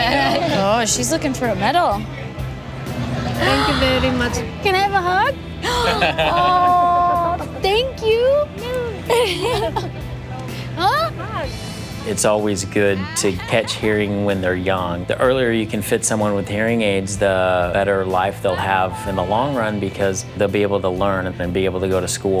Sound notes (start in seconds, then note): 5.4 gasps